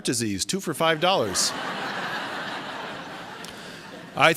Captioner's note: laughter